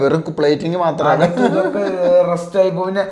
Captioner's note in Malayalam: പൊട്ടിച്ചിരി